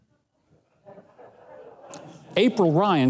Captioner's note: audience laughing